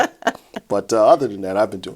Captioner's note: chuckles